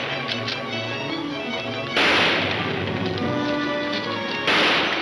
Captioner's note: gunshots banging